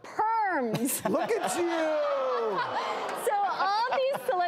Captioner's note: audience roars